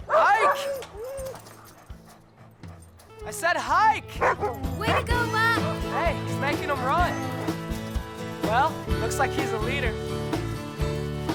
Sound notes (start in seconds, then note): 0.0 dogs whining; 1.2 Buck barking